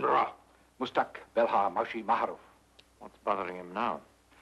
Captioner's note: priest speaks foreign language; speaks foreign language